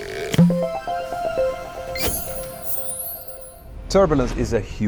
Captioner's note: playful chime